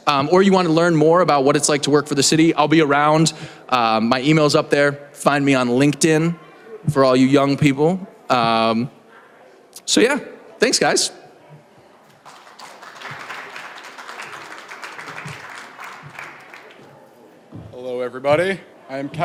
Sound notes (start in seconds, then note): 12.1 applause